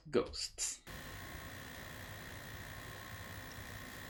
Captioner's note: low computer noise